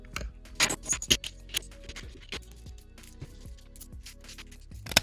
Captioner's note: pieces clicking